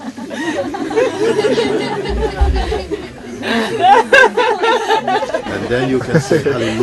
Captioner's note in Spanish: risas y sollozos